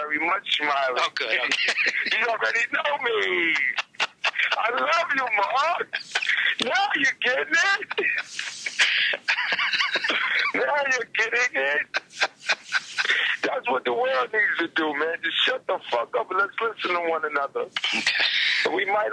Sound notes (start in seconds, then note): 1.1 laughs; 1.4 Marc laughs loudly